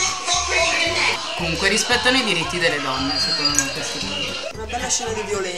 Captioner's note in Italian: ironico